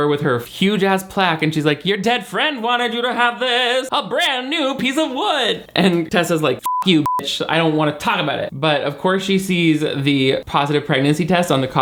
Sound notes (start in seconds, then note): 6.6 beep